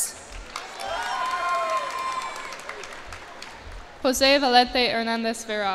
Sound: cheers and applause

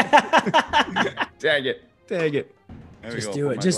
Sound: laugh

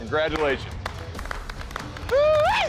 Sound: applause

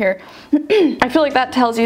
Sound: clears throat

